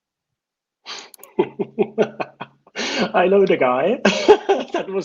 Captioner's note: laughs